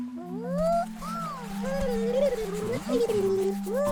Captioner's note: warbeling